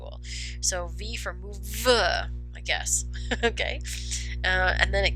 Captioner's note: chuckles